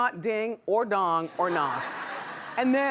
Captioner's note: laughing